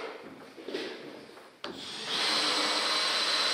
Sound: drilling

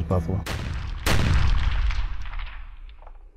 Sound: gunshots

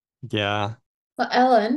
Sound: laughs

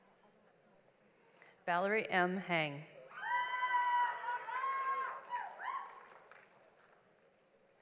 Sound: audience applauds

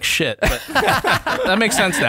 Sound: laughter

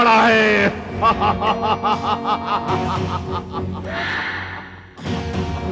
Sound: evil Laugh

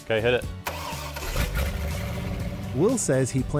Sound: engine running

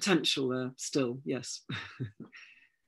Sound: laughs

